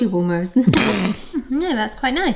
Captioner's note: laughing